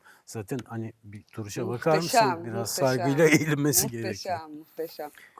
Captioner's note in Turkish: kahkaha